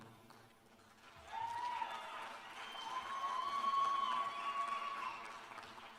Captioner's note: cheers and applause